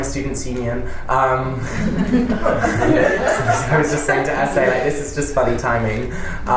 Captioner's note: panellists and audience laugh